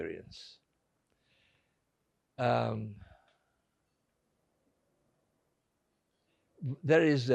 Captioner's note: pauses 6 seconds